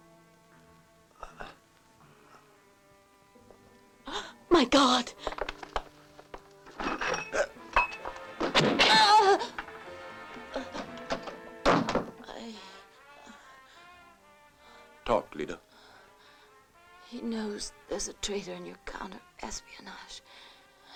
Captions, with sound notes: [GASPS] My God. [MUFFLED GUNSHOT] [SCREAMS] I-- Talk, Lyda. He knows there's a traitor in your counter espionage,